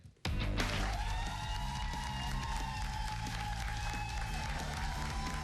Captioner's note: cheers and applause